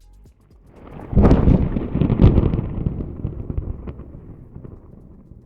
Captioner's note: thunder rolls